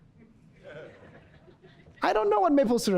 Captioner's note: audience laughs